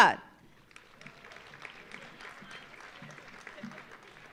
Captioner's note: audience applauding